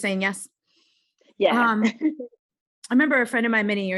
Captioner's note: laughs